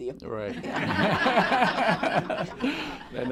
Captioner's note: laughter